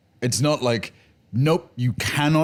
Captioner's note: none